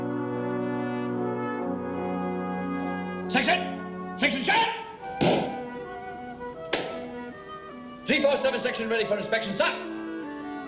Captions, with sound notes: - Section! Section set! (boots tapping) C4 Section, ready for inspection, sir!